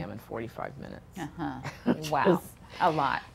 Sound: laughs

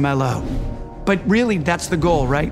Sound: graphic whooshing

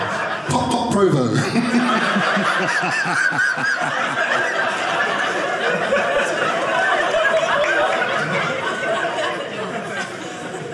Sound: audience laughing

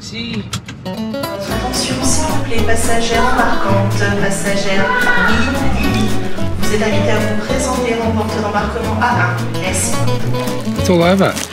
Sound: airport announcement in French

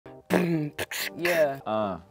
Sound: couple beatboxes

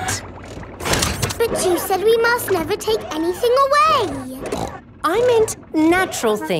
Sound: snorts

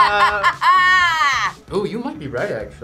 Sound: laughs

